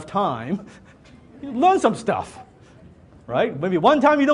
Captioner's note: laughs